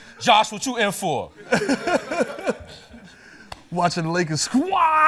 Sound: laughter

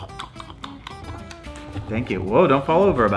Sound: mouth smacks

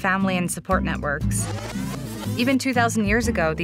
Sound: sound of video rewinding

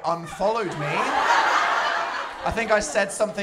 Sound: laughter

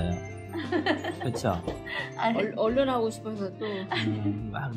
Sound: laughs

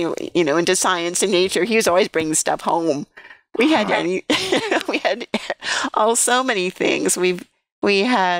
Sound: laughter

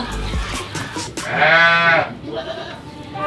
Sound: goat bleating

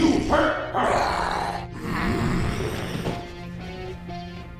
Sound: zombie growls

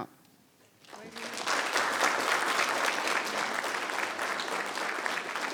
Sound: people clapping

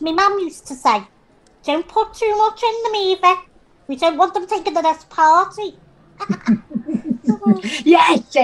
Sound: laughs

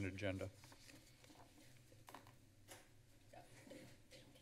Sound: rustling sounds

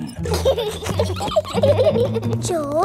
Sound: both giggling

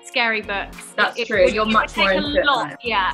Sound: overlapping chatter

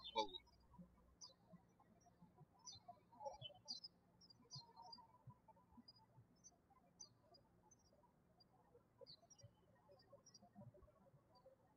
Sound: birds chirping

